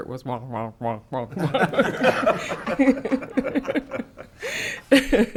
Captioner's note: everyone laughing